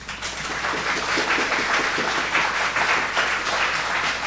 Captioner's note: audience applauding